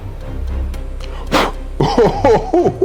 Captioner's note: blows out fire